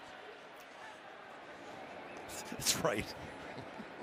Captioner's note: laughter